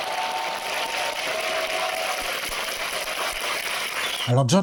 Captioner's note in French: applaudissements